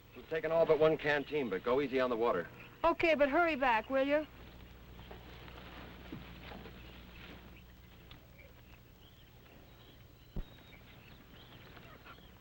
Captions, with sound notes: We're takin' all but one canteen but go easy on the water. - Okay, but hurry back will ya? (birds chirping) (animals calling)